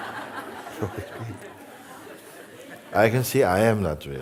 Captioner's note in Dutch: gelach